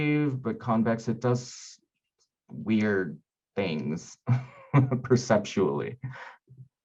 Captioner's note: chuckling